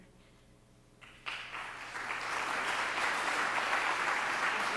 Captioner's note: applause